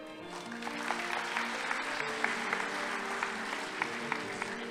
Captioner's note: audience applauding